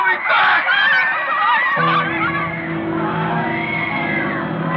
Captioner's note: crowd screaming; ominous music